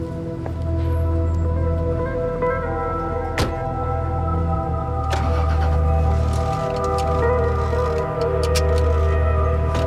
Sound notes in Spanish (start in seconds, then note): 2.2 Sonido al abrir y cerrar las puertas; 5.1 Sonido al arrancar el motor